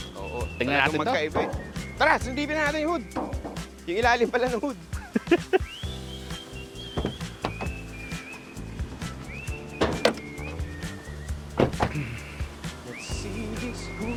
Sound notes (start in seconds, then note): 4.9 laughs; 6.9 door opens; 9.5 hood pops; 11.5 doors thud